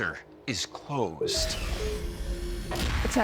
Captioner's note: door opening